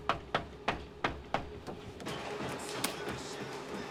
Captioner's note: knocks